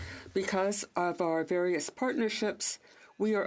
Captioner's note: speaking French